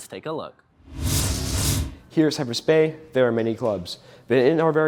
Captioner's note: scene change whoosh